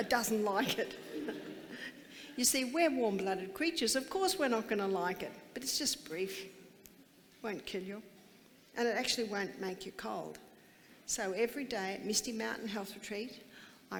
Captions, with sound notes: It doesn't like it. (laughing) You see, we're warm-blooded creatures, of course we're not gonna like it. But it's just brief, it won't kill you. And it actually won't make you cold. So every day at Misty Mountain Health Retreat,